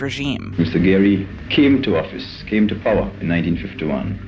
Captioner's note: soundbite of archived recording